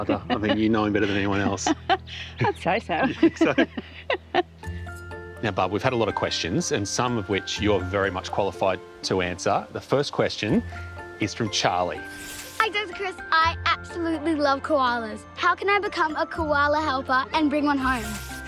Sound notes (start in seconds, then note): 0.0 laughs; 3.0 both laughing